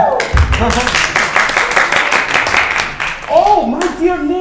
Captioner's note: crowd applauding